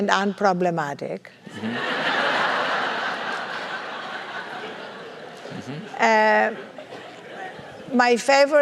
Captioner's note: laugh